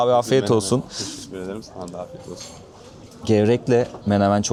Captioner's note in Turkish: homurdanır